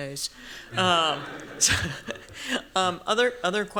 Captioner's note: laughter